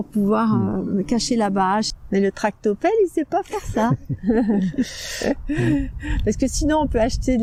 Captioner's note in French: rires